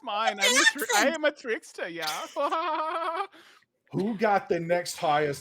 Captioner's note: laughs